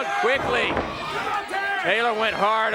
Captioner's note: crowd chatter